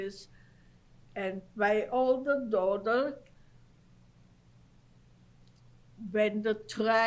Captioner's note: pauses for 3 seconds